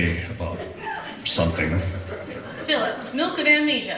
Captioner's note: laughter